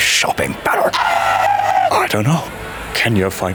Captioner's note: Marshall screaming